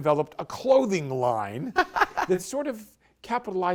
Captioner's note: short laugh